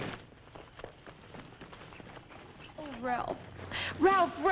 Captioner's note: footsteps approaching